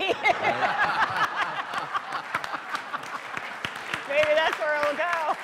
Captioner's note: laughter; applause